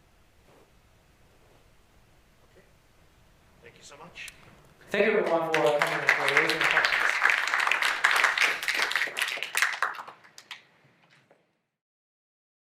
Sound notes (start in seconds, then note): 7.0 applause